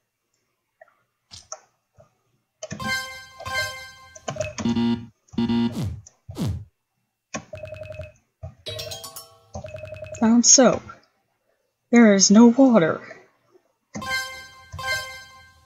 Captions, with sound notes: *bling* *bling**be-beep**be-beep* Found soap. There is no water.